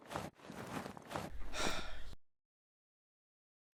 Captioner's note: sigh